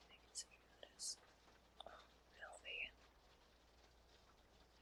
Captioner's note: whispers